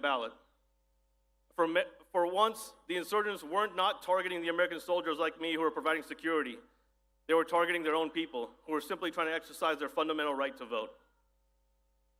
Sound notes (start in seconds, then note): none